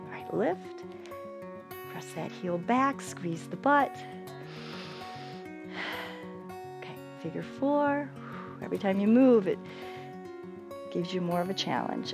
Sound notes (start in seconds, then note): 4.4 inhales and exhales